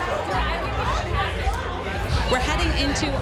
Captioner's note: crowd chattering